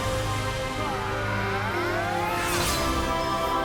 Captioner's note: battle cry